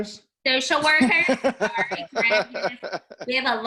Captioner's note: laughing